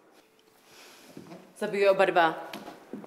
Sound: speaks another language

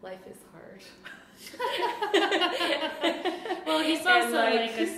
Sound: laughter

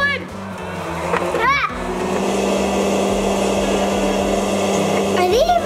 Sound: popcorn machine whirring

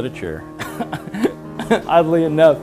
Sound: laugh

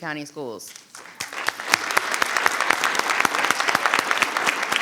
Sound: audience applauding

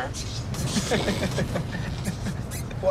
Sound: laughs

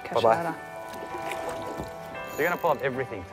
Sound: water splashing

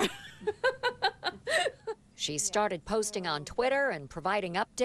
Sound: laughter

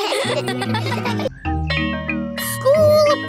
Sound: all laugh; school bell rings

